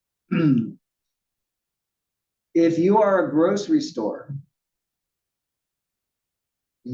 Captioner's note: cough